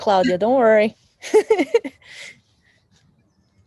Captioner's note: laughs